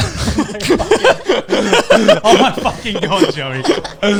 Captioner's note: everyone laughing